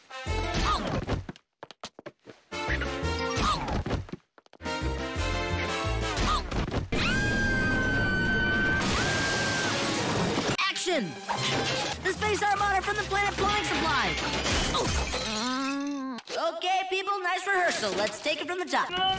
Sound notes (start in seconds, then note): 7.3 continues screaming in Raiders; 15.2 groans in concussion and broken bones